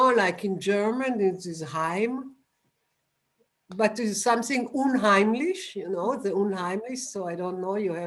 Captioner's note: german